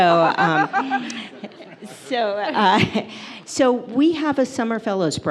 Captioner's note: audience laughs